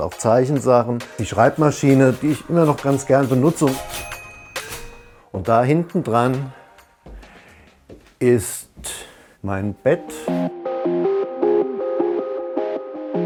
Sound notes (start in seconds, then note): 4.0 ping; 9.5 relaxing music